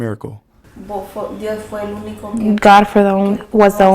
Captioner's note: speaking spanish